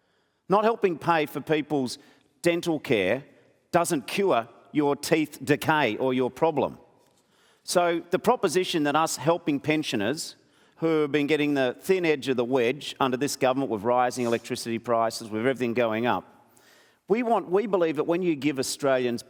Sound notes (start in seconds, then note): none